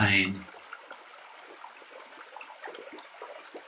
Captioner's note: sounds of a stream